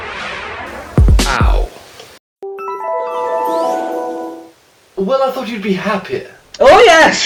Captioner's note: flashback end noise